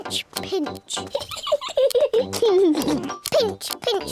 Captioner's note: peppa and george giggle